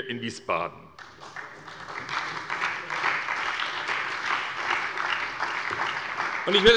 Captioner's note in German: Beifall bei der SPD und bei Abgeordneten der FDP